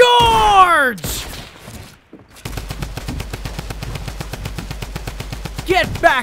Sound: gun bangs

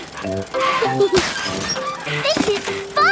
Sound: mummy and daddy pig panting; peppa and george laughing

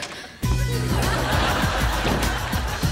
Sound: <i>door closes

